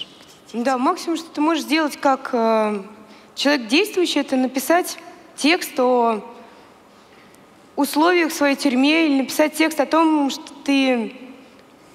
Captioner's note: foreign Language